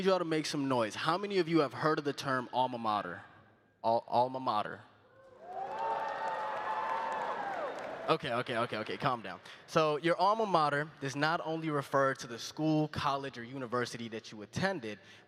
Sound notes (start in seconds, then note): 8.1 cheering and applause